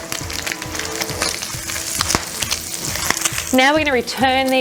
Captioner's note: sizzling